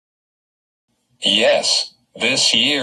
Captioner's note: voiceover